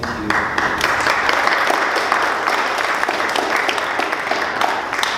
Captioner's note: audience applauding